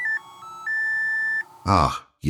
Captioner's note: beeping